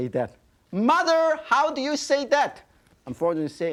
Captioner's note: yelling